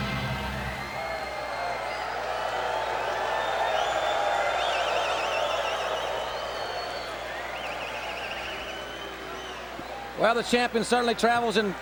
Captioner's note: applause